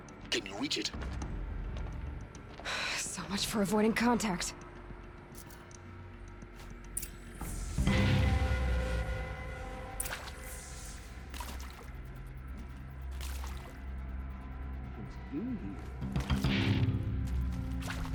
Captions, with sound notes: Can you reach it? (sigh) So much for avoiding contact!